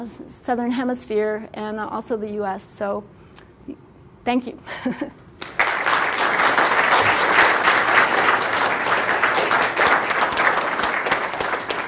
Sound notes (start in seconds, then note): 5.3 laugh; 5.4 clapping